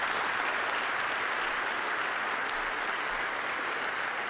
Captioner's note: applause